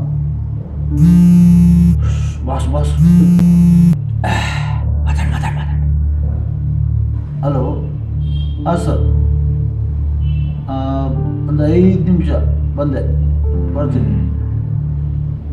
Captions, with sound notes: Shh!!! It’s Boss!! ( husk voice ) Okay carry on!! ( husk voice ) Hello!! Yes sir, just 5 mins sir, I’ll be there..